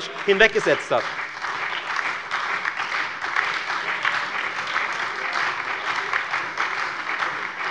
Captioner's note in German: Beifall bei der FDP, der SPD und bei Abgeordneten der LINKEN